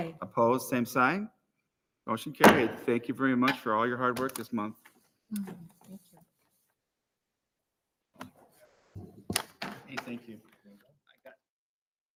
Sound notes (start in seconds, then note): 2.1 gavel raps